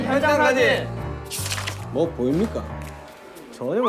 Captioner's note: Mysterious footstep